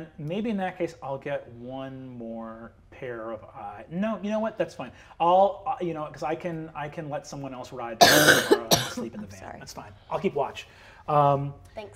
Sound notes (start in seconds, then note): 8.0 coughs